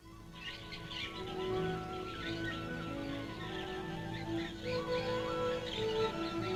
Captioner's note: birds chirping; pleasant orchestral music